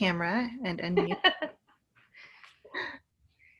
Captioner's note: laughing